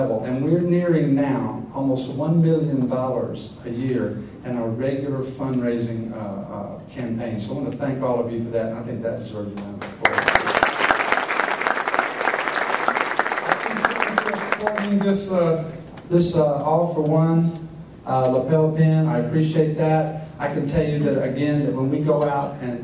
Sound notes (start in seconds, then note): 9.8 applause